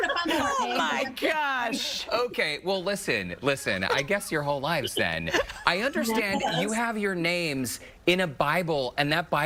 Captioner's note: laughter